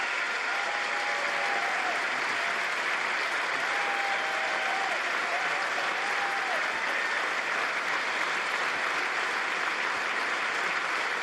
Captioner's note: applause